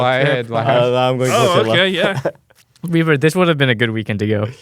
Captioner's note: laughs